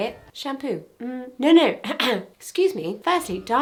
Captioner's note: coughs